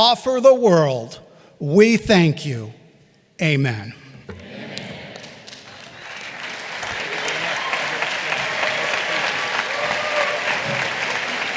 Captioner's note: applause